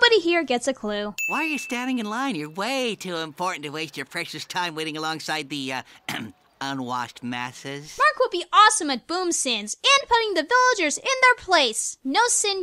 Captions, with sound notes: Why are you standing in line? You're way too important to waste your precious time waiting alongside the, uh, (clears throat) unwashed masses.